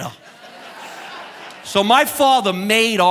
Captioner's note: audience laughing